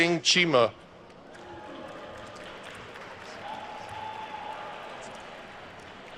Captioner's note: attendees cheering and applauding